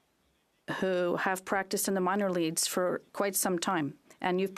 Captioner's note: speaking French